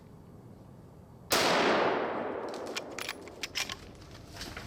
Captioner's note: gunshot firing